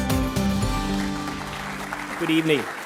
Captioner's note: soft pop music; clapping